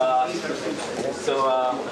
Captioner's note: crowd murmurs